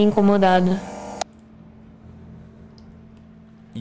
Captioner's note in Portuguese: som de gravação parando de ser reproduzida